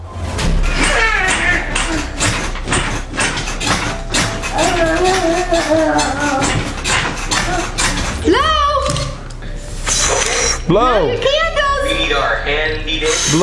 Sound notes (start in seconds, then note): 0.8 babbling; 2.6 mattress squeaking